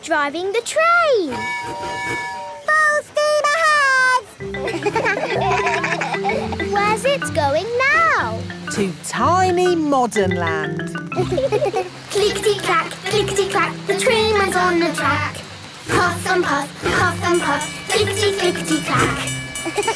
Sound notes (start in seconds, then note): 1.2 tooting; 4.4 kids laugh; 11.1 laughing